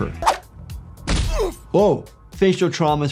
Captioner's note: victim grunting